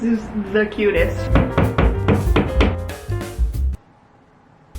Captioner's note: hammer thuds